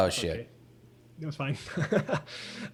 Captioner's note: laughs